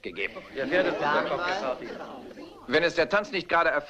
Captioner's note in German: Gemurmel